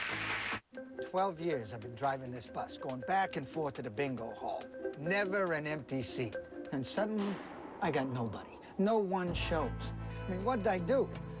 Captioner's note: audience applauding